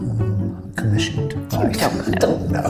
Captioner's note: scoffs